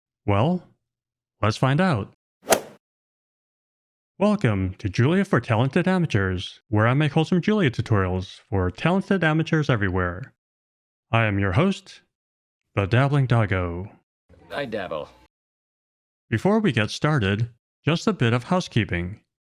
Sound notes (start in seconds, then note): 2.4 golf swing sound effect